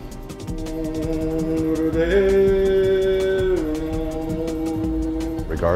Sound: chanting

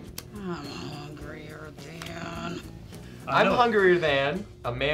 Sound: grumbling

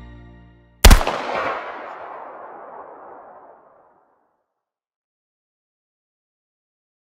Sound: gunshot

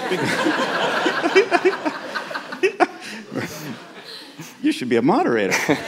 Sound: laughter

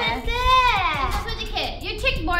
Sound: speaks in Korean

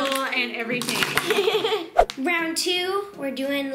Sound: laughs

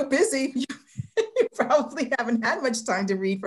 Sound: laughs

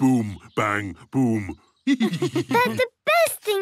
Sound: laughs

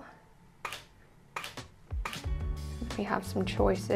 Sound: camera clicking

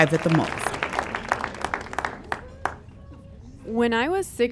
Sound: audience clapping

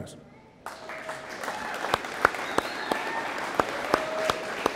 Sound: audience applauding

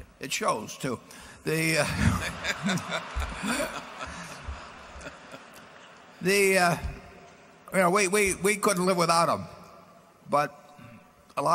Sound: laughter

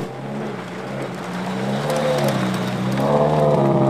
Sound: engine revving

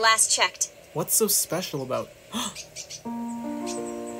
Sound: gasp

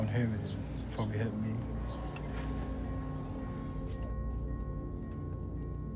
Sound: rail crossing dings

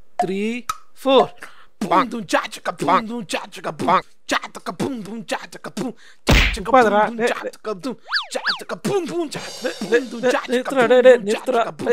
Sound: started his weird beatboxing

